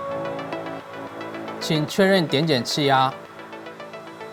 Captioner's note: Mandarin